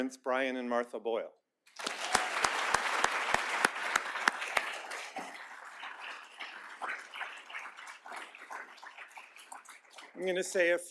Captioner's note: applause